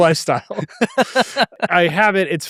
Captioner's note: laughs